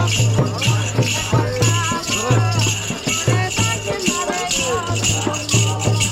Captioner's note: chanting